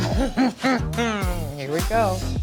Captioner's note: laughing